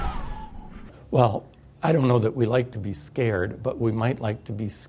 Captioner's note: audience screams